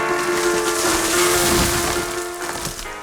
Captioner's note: muffled crunch